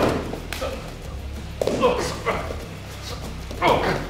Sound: thud; grunting

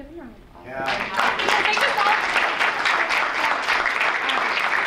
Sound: audience applauds

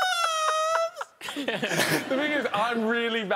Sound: laughing

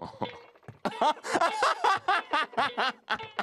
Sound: laughs; laughs heartily

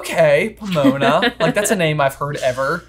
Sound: laughing

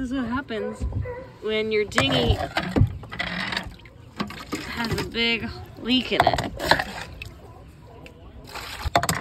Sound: harbor seals barking

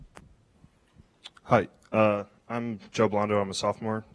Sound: voiceover

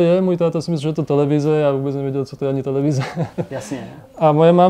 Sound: laugh

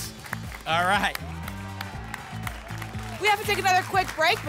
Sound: applause and cheering

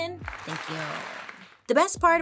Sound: people applauding

